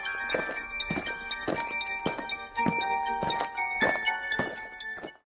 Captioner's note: eerie music; aliens marching